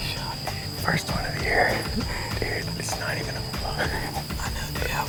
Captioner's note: whispering